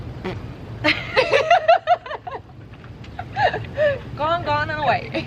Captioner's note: laughter